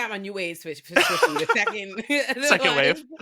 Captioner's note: laughing